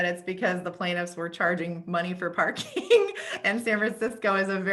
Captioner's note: laughs